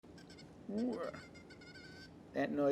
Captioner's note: squeaks